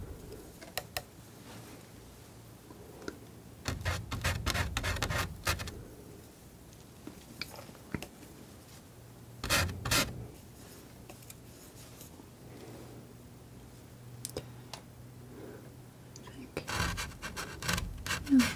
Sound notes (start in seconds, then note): 11.4 scratching